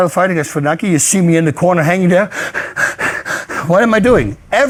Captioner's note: panting